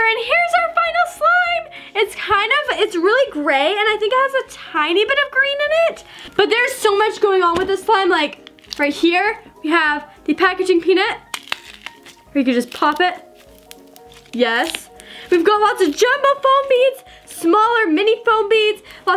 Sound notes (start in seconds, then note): 11.1 popping packaging peanuts